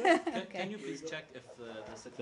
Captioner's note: laughter